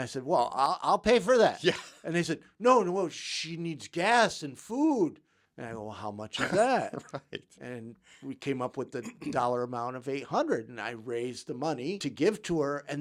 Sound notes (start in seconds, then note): 6.4 chuckles